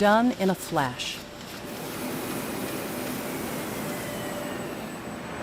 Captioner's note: machine humming